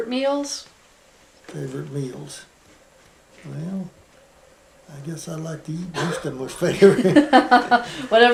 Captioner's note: laughter